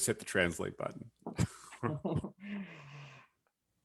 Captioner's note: chuckles